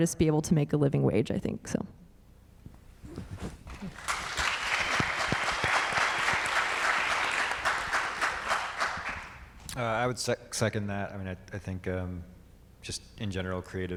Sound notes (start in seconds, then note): 3.6 audience clapping